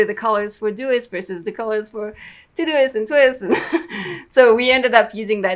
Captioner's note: laughs